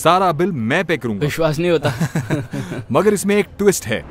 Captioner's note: laughs